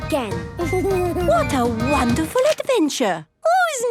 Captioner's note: Danny giggles